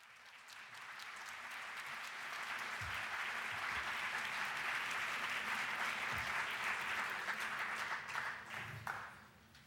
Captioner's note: applause